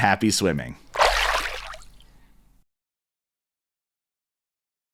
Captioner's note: water splashes